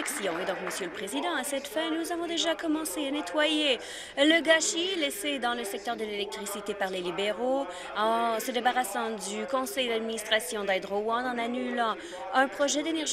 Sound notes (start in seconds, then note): 2.6 applause